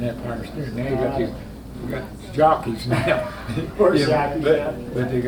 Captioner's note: laughing